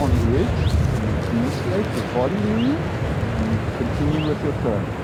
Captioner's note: speaking faintly